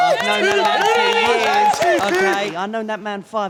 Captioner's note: claps